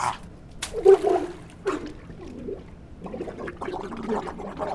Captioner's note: water bubbling